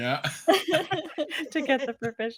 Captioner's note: cast laughing